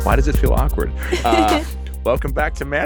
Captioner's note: laughing